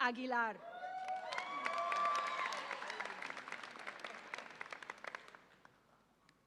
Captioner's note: audience applauds and cheers